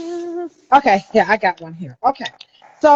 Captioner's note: none